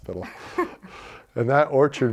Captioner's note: laughter